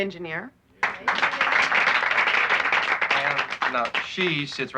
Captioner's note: applauding